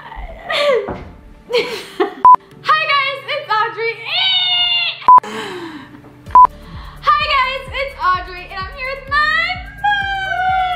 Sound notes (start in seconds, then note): 1.5 laughter; 5.9 shouts